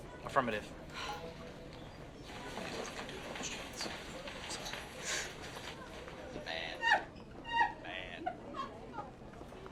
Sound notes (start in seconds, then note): 2.9 whispered; 7.2 cherise cries